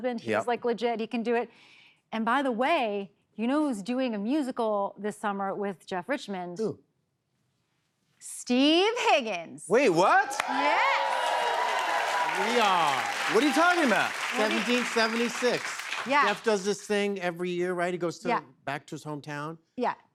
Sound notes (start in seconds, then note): 10.0 cheers and applause